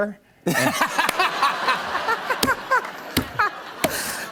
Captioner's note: laughter